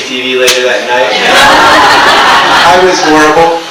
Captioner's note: audience laughs